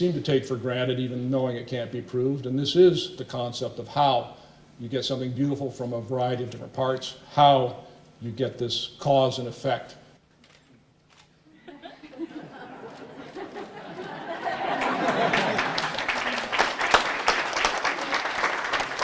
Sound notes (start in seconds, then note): 11.5 laughter; 14.5 applause